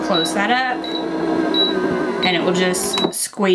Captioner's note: press rumbling